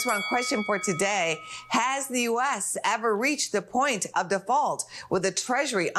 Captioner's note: bell rings